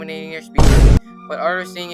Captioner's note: boom sound effect